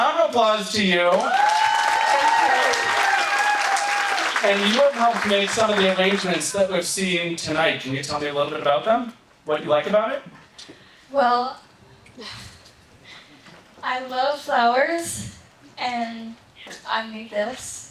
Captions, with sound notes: Round of applause to you. (audience applauding) And you have helped make some of the arrangements that we're seeing tonight. Can you tell me a little bit about them? What do you like about it? Well, I love flowers, and I made this,